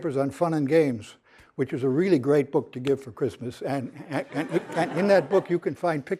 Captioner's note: laughter